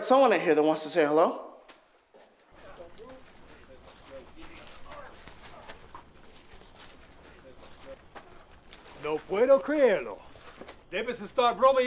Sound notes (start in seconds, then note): 2.1 night din; 8.4 speaking Spanish